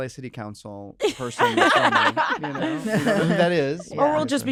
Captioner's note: laughter